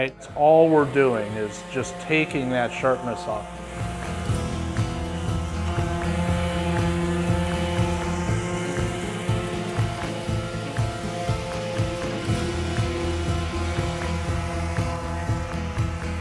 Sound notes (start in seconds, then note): 4.9 sander whirring; 4.9 upbeat music